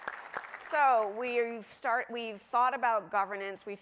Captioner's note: applause